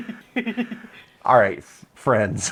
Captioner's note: laughter